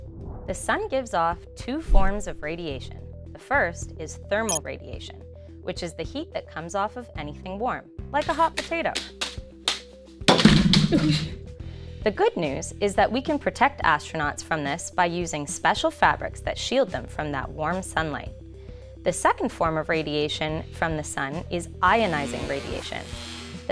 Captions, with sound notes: the Sun gives off two forms of radiation the first is thermal radiation, which is the heat that comes off of anything warm like a hot potato [juggling sound] [thud] the good news is that we can protect astronauts from this by using special fabrics that shield them from that warm sunlight the second form of radiation from the Sun is ionizing radiation